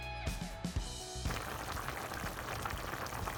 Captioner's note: boiling